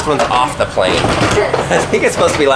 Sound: laughs

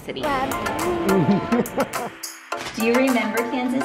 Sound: laughs

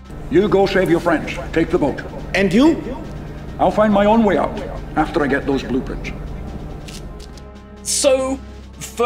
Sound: difficult to understand thick Scottish accent

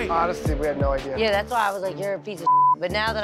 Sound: beeping

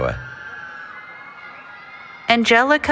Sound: cheering

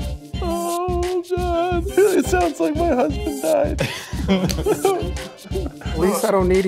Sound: whimpering

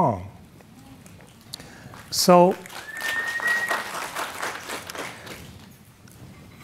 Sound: audience murmuring and clapping

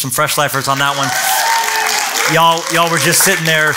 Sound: cheering

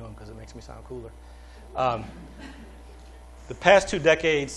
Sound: laughter

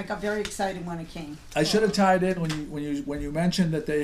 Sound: voiceover

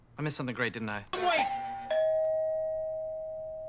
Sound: doorbell

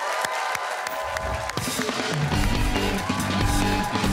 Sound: cheers and applause

